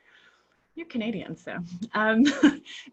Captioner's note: laughs